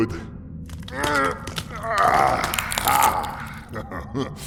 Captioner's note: stretching his arms, bone cracking sounds